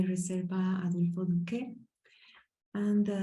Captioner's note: speaking Spanish